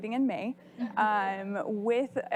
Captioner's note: laughing